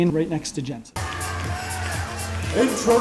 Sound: audience cheering

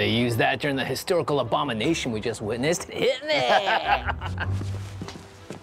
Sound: Brom laughs

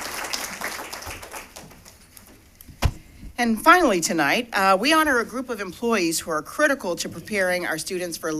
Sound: applause

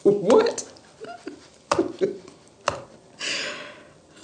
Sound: laughing

